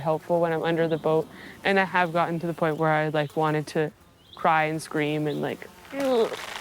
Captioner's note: grits teeth